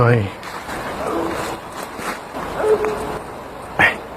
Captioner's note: bigfoot noises